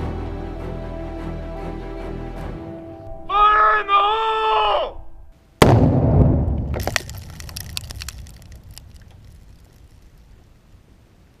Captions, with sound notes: Fire in the hole! (device exploding)